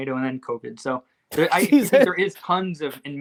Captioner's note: laughs